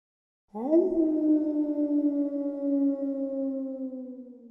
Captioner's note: wolf howls